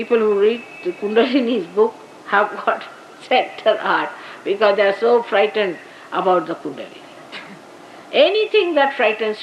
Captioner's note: Shri Mataji laughing